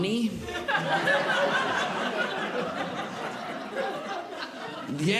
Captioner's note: audience Laughing